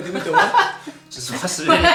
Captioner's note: laughs